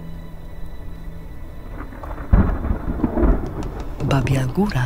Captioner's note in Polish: słychać grzmoty burzy